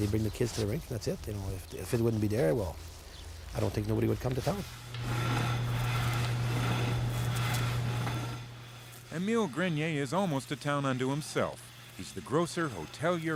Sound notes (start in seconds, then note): 4.9 scraping